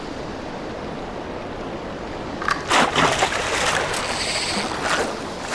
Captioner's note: more splashing